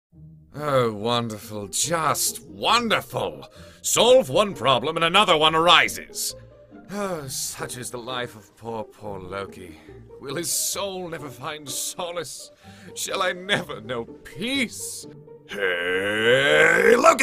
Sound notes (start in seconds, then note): 6.1 sighs